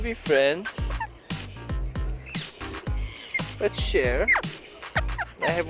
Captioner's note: parrots squawking